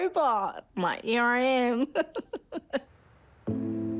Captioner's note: giggles